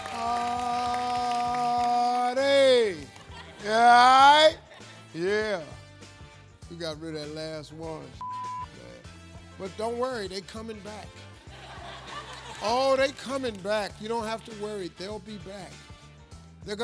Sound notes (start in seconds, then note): 8.2 beeping; 11.5 audience laughing